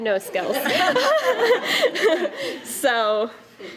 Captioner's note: laughter